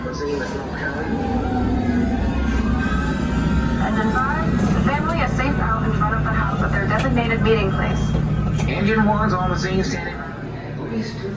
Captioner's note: fire truck driving simulator screen, siren blaring; fire alarm beeping